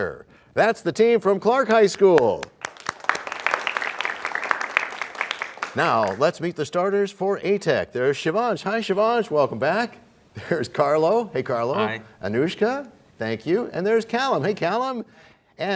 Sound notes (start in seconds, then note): 1.8 applause